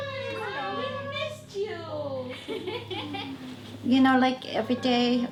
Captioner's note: laughing